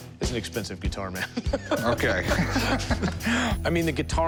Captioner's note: laughs